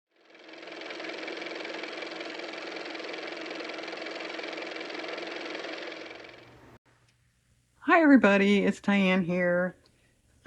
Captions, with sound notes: (car motor) Hi everybody. It's Diane here.